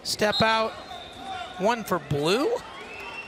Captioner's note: whistle blows